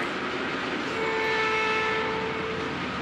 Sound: train whistles

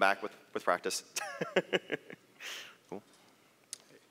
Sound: laughs

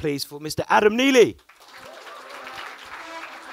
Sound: audience applauds

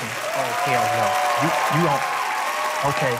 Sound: cheers and applause

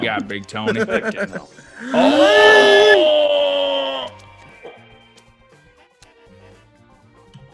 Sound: laugh

